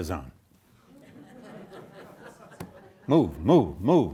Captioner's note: audience laughing